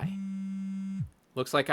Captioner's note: cell phone buzz